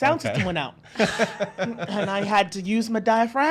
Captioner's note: laughs